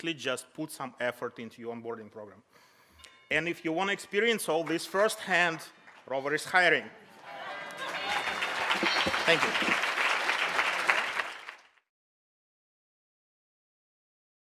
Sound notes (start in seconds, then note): 7.2 audience laughs; 7.2 audience applause